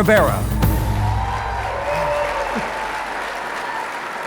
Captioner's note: audience applauding